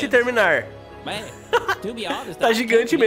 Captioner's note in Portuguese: risos